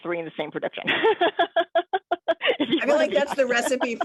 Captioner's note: laughs